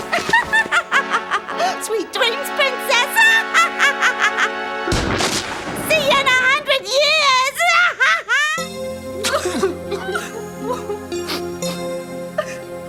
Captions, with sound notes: (cackling) - Sweet dreams, princess. See ya in a hundred years! (sobbing)